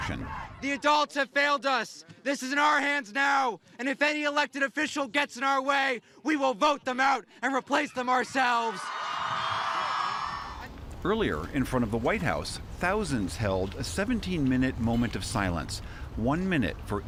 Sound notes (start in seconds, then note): 8.6 cheering and applause